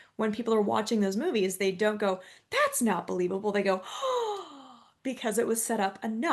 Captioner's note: gasp